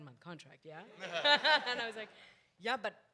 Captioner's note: audience laughs